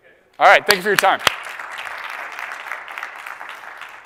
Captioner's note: applause